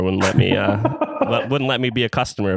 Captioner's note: laughs